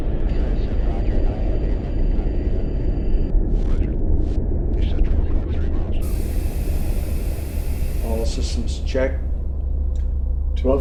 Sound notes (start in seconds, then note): 1.9 spaceship whirring; 9.7 eerie atmospheric music